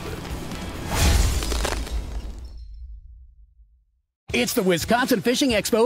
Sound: ice shattering

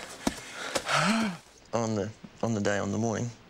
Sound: exhales

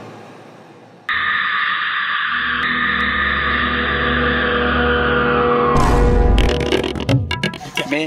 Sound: screams

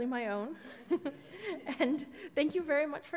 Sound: laughs

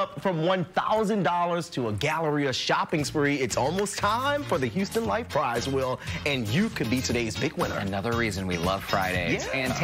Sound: laughter

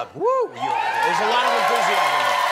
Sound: cheers and applause

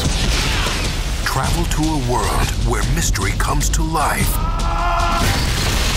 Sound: voiceover

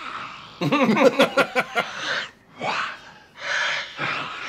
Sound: growling masterclass

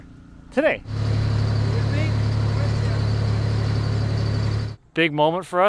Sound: machine engine rumbling; people chattering

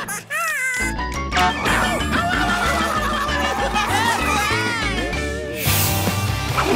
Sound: screaming

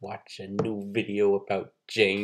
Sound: none

